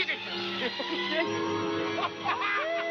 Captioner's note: laughter